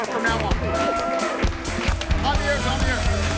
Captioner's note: audience applauds